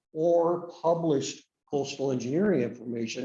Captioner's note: none